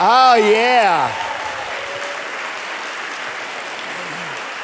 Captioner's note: audience applauding